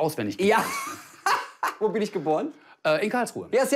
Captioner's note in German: lacht